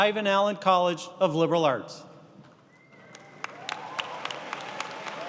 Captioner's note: applause